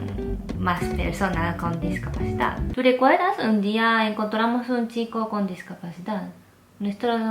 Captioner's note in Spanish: none